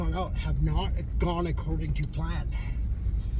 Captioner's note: none